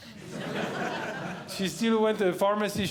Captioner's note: audience Laughing